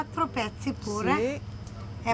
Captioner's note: speaking Italian